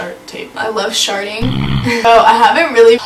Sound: farting sound effect

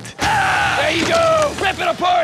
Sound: yells

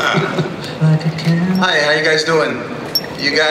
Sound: voiceover

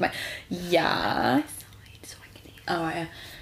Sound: whispers

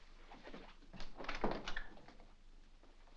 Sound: door opens

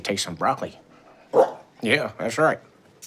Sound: dog barking

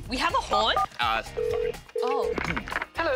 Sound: ringing tone

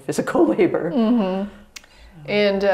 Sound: laughs

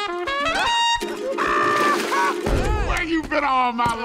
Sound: laughing

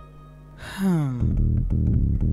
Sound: Nandan sighs heavily

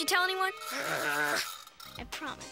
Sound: growling

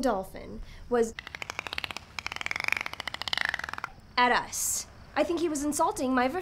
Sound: dolphin clicks

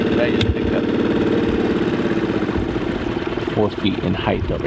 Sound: boat engine roars

